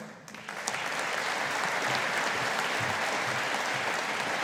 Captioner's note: audience applauding